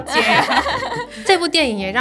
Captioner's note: laughing so hard XD